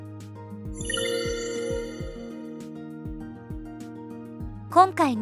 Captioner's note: typing Sound Comparison